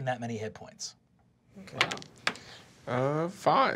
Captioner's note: dice clacking